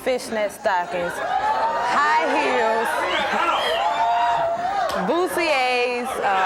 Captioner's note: audience cheers